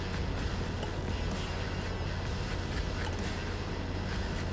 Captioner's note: grater grinding